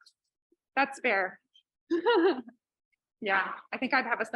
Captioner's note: laughs